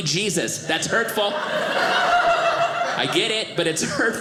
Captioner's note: audience laughing